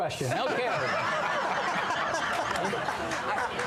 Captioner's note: laughter